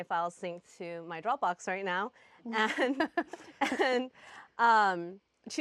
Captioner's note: laughs